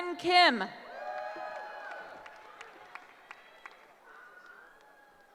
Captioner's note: cheering